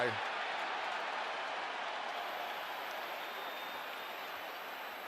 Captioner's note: cheering